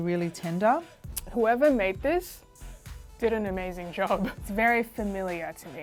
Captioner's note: chuckles